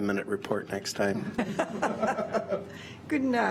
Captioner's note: laughter